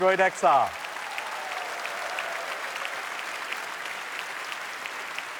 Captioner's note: applause